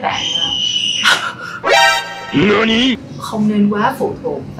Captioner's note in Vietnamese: tiếng trẻ con la hét